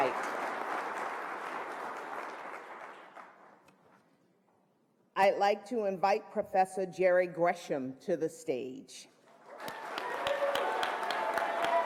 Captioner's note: applause